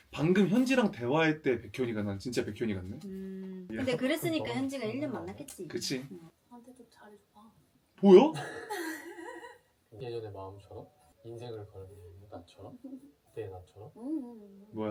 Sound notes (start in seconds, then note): 8.4 suddenly crying and laughing